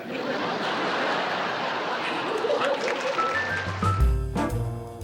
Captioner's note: audience laughs; upbeat jazz music plays